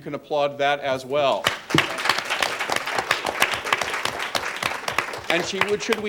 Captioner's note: applause